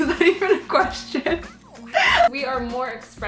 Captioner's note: laughing